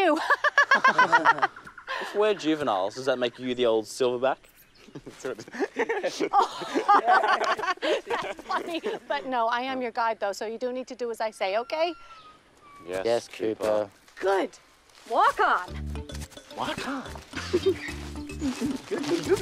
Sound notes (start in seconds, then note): 0.1 laughs; 1.7 boys laugh insincerely; 4.8 boys chuckle; 17.5 imitates Cooper